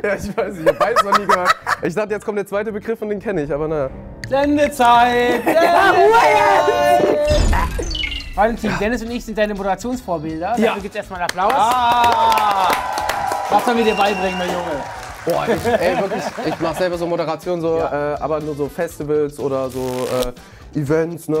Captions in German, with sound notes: Ich weiß nicht, ich hab beides noch nie gehört. Ich dachte, jetzt kommt der zweite Begriff und den kenne ich. (Bedrohliche Klänge) (Durcheinanderrufen, angeekelter Laut) Valentin, Dennis und ich sind deine Moderationsvorbilder. - Ja. Dafür gibt's erst mal Applaus. (Jubel, Applaus) Was sollen wir dir beibringen, mein Junge? Boah, ich mach selber so Moderationen, aber nur so Festivals oder so Events, ne?